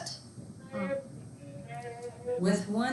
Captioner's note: student mumbling